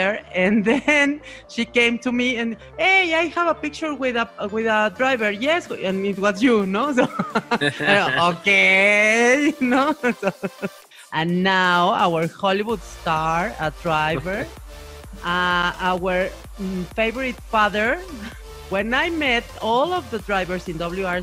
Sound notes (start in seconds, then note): 7.0 laughs